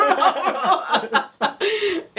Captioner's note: jajajaja